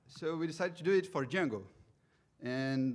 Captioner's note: none